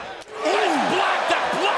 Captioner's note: crowd cheering